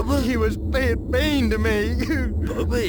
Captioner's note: cries